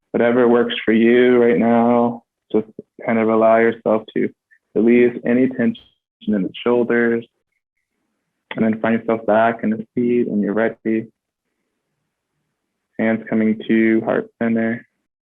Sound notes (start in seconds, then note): none